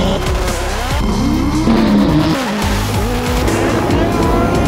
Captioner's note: engines roar; engines whine; engines growl